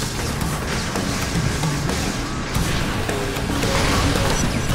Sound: electricity exploding

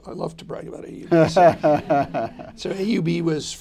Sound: laughter

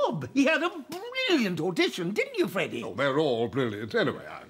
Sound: none

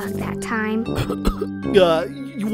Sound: Tumbleweed coughs

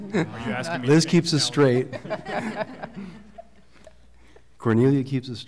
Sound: laughter

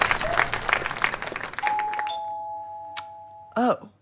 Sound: doorbell rings

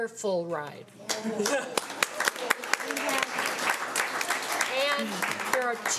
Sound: audience applauding

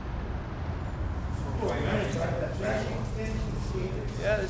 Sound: gym chatter

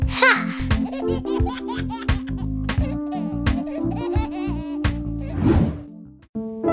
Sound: laughs

